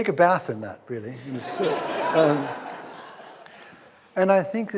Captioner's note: audience laughs